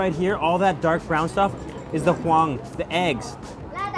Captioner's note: foreign language